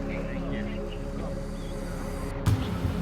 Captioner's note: paragliders chattering; gentle music